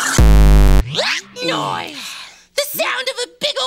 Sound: tutter, vibrato'd

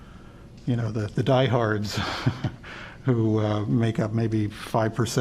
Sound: laughter

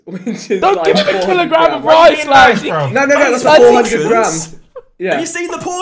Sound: all laughing

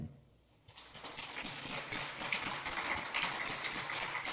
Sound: audience applauds

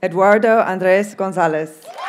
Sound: audience cheers and applauds

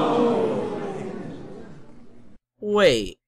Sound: crowd gasp

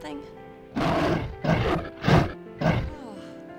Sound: gentle Growling

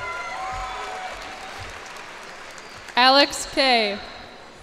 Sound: cheers and applause

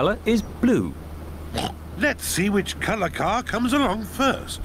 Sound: oinks

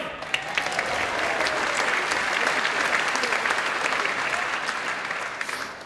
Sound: applause

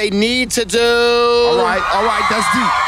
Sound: girls scream

